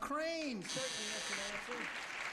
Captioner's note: applause